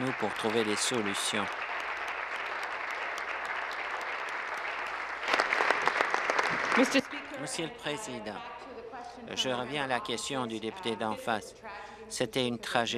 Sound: applause

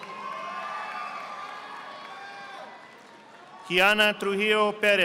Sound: audience applauding

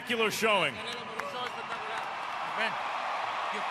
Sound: crowd cheering

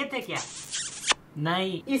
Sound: kissing noises

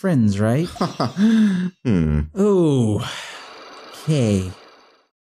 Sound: sharp inhale

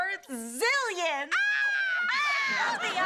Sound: both exclaiming

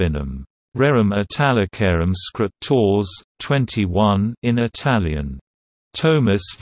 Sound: in Italian

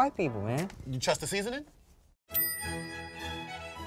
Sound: bell dings; classical music

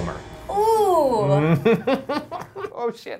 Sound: laughing

